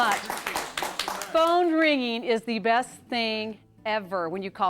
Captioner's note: �applause�